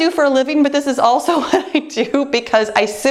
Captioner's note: chuckles